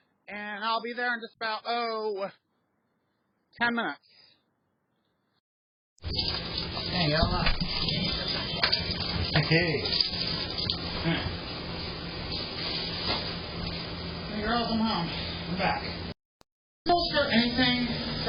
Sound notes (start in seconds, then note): none